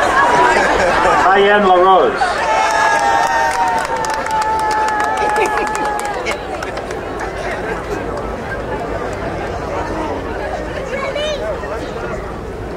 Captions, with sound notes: Arriane LaRose. (crowd cheering)